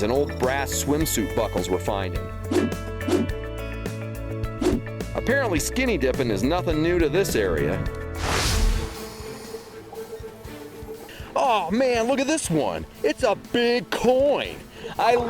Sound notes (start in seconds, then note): 8.1 swooshing; 9.7 dramatic orchestral music